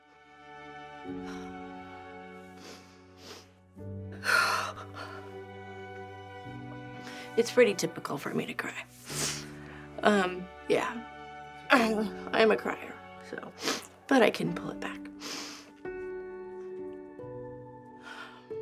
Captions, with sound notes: (light music) (sniffling) - It's pretty typical for me to cry. Yeah. I'm a cryer. But I can pull it back.